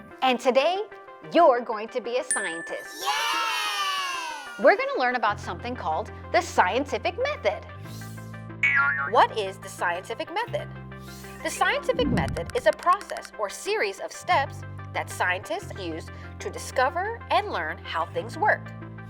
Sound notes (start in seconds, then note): 7.9 icon pinging; 8.6 upbeat music